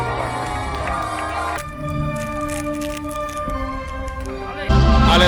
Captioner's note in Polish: Aplauz